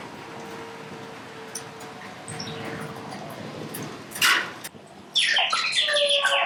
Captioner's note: synthesized bird noises